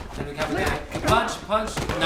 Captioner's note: grunting and punch thuds